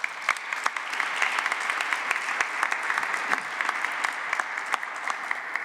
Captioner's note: applause